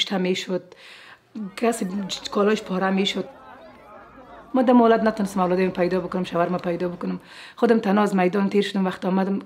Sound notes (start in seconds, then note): 1.2 crowd chattering; 4.1 speaking in foreign language